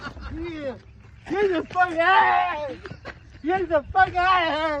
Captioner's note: golfer screaming